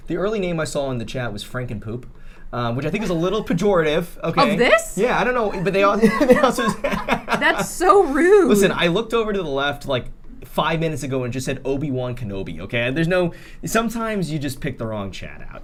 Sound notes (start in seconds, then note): 5.2 laughter